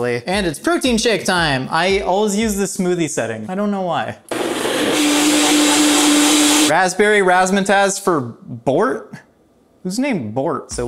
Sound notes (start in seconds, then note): 4.3 blender grinding